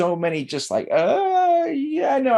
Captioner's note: gasps